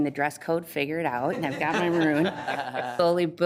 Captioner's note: laughter